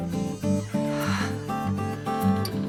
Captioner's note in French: soupirs